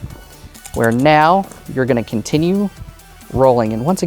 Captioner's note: dice rattling, then rolling